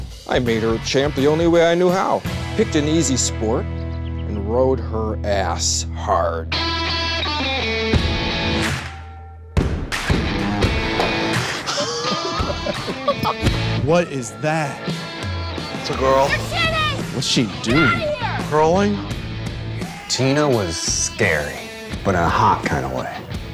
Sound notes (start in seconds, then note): 11.5 laughs; 17.6 Tina yelling